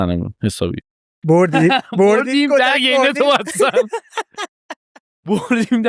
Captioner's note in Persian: خنده